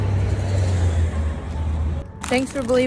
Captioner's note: candy crunching